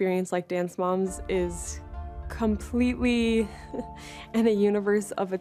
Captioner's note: chuckles softly